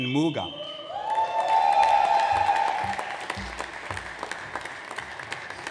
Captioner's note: audience applauds